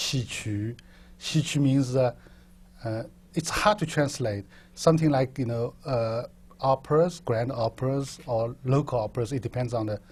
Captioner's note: chinese